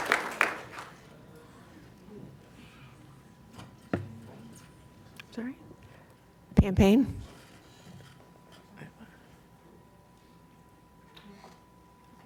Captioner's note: applause